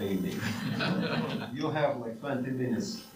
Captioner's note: audience laughs